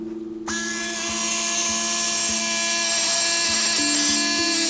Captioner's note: tool whirring